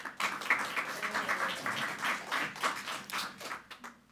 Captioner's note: group clapping